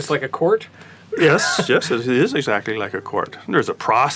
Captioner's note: laugh